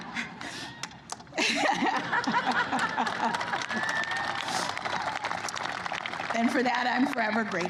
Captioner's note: laughter and applause